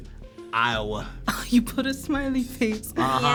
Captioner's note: chuckles